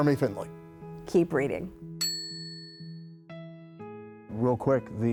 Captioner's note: bell rings